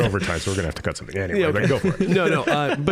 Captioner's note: all laughing